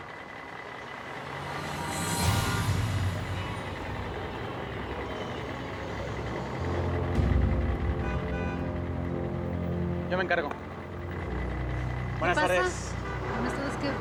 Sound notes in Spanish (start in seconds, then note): 1.4 sonido del claxon; 4.8 sonido del motor